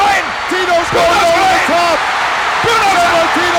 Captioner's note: audience cheering